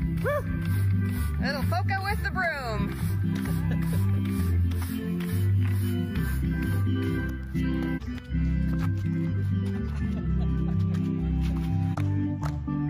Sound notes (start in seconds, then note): 0.2 man sighs; 2.5 broom scratching; 3.5 man laughing; 4.5 accordion music